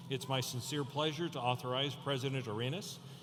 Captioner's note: none